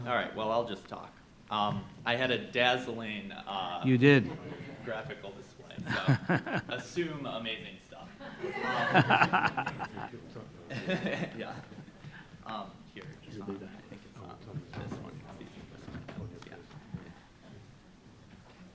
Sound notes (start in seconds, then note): 8.3 audience laughing